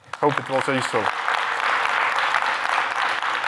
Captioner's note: applause